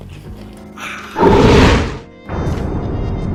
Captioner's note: roar